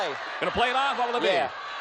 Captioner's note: applause; audience yells